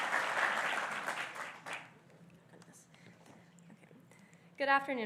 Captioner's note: applause